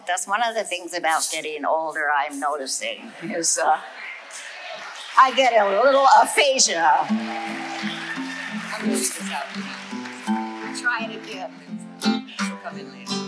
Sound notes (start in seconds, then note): 7.3 audience applauding